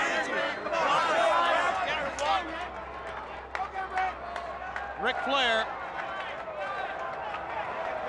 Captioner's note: crowd chatter